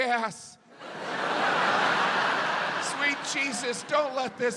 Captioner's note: audience laughs